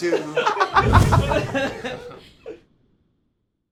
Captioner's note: laughter